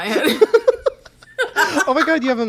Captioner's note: both laugh